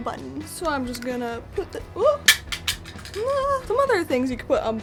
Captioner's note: button falls